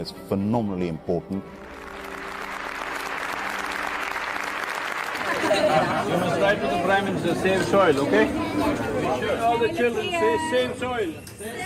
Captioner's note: applause